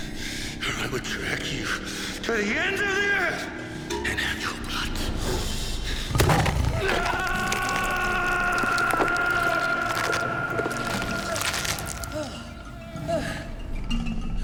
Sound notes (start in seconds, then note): 6.7 shrieking